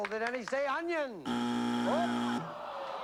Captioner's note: buzzer